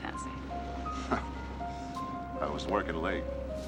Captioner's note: chuckles